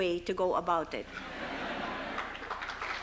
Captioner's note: laughter; applause